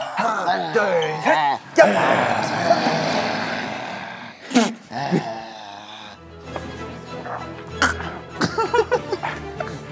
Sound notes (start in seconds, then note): 4.3 sputter of laughter; 8.0 in zombie language